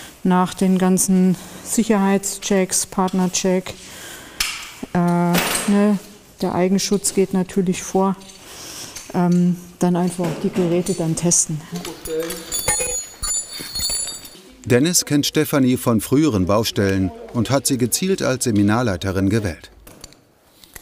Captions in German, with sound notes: Nach den ganzen Sicherheitschecks, Partnercheck ... Äh ... ne? Der Eigenschutz geht natürlich vor. Dann einfach auch die Geräte dann testen. (Klimpern der Geräte) Dennis kennt Stephanie von früheren Baustellen und hat sie gezielt als Seminarleiterin gewählt.